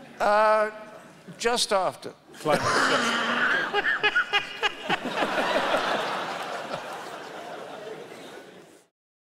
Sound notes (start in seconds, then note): 2.5 laughing loudly; 2.5 laughing; 6.4 laughter from audience